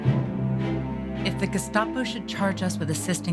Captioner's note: voiceover